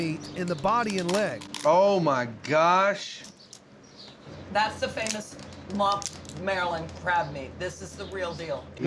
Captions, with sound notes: IN THE BODY AND LEG. OH MY GOSH! [CRACKING] THAT'S THE FAMOUS LUMP MARYLAND CRAB MEAT. THIS IS THE REAL DEAL.